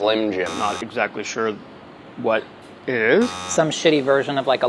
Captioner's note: buzzing; buzzing